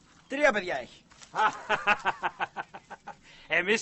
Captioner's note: vlassis laughs